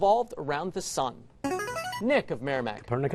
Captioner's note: buzzer